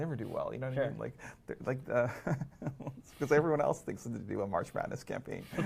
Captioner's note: laughs